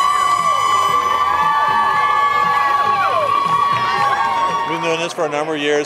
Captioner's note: cheering and applause